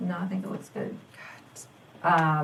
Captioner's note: whispers